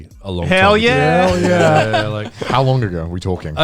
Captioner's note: all laughing